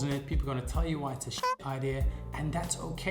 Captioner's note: honk